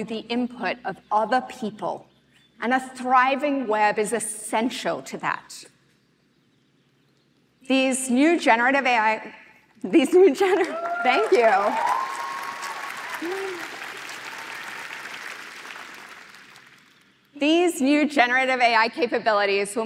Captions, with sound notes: the input of other people, and a thriving web is essential to that. These new generative AI-- thank you. [APPLAUSE] These new generative AI capabilities